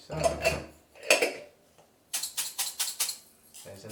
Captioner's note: sounds of rice shaking